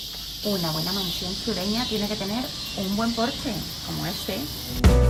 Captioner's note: and one million singing cicadas…